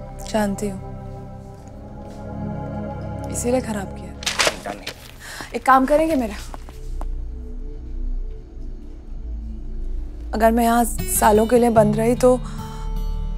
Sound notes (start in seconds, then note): 4.2 Slams papers; 5.1 Gauravi inhales; 12.7 Inhales